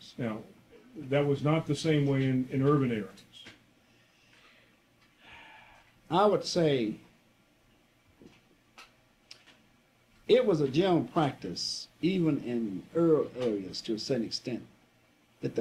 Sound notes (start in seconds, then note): 5.2 inhales deeply; 5.2 exhales loudly